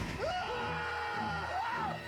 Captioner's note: Brad and Murray screaming